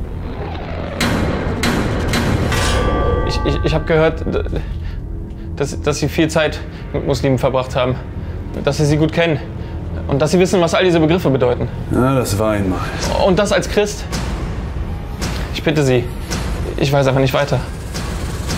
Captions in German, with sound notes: *Spannende Musik* *Glockenschlag* - Ich... ich hab gehört, dass Sie viel Zeit mit Muslimen verbracht haben, dass Sie sie gut kennen, und dass Sie wissen, was all diese Begriffe bedeuten. Ja, das war einmal. Und das als Christ! Ich bitte Sie, ich weiß einfach nicht weiter.